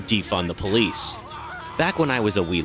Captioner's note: cop screams